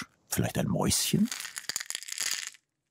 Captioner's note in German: Rascheln